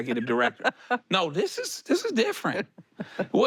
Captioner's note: she laughs